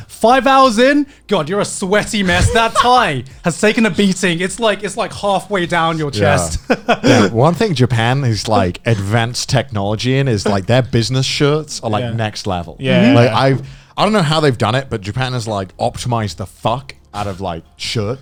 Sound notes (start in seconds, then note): 6.2 laughs